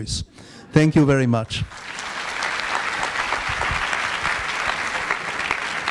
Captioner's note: audience applauds